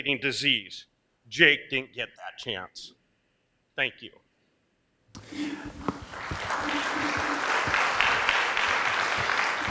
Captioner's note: applause